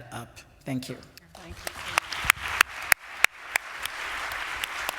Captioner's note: applause